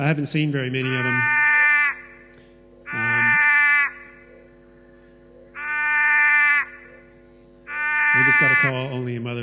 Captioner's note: sounds of Wailing Frog call